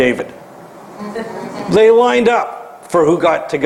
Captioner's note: laugh